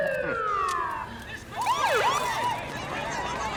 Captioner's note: siren